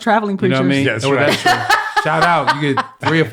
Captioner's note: all laugh